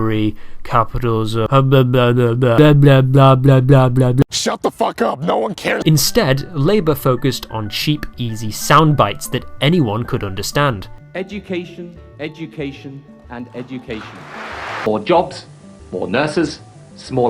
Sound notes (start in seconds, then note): 13.8 applause